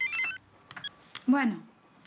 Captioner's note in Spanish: Suena el celular